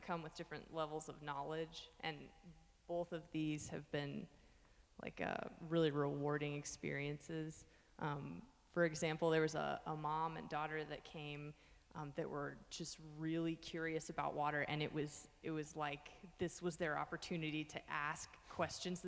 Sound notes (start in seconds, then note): none